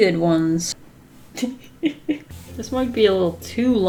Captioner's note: laughs